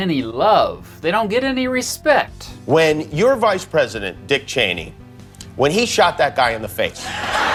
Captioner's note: laughter